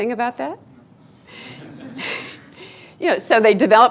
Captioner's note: students laughing